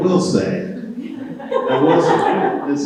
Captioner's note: people chuckle